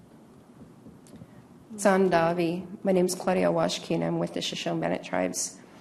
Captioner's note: native American language